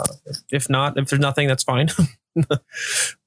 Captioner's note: chuckling